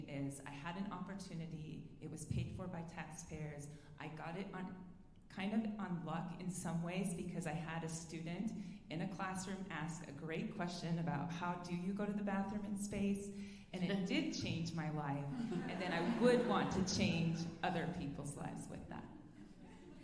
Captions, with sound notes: is I had an opportunity, it was paid for by taxpayers. I got it kind of on luck in some ways because I had a student in a classroom ask a great question about, how do you go to the bathroom in space? And it did change my life, (alumni laughing) and then I would want to change other people's lives with that.